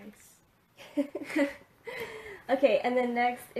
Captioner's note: laughing